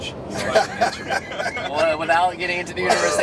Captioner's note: laughter